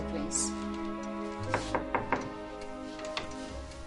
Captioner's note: knock at door